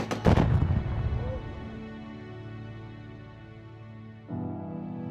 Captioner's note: explosion blasting